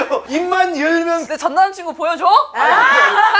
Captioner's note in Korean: 쒸익쒸익